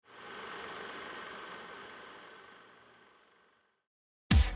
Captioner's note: film reel whirring